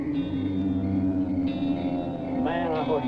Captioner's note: creature wailing